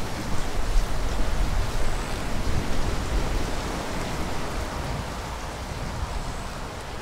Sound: rainfall and thunder; heavy wind blows

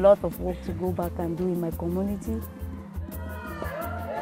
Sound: cheering

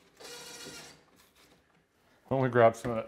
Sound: drill buzzing

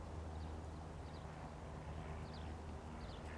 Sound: airplane hums overhead

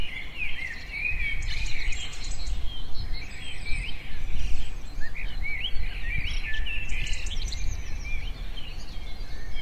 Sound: forest birds

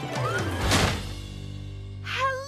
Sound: doors Slam

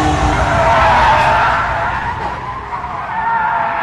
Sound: tires squealing

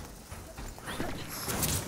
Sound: player jumping

